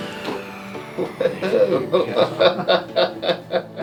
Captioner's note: laughs